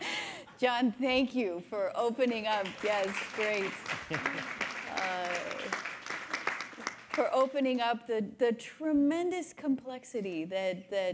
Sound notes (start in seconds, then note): 2.3 everybody clapping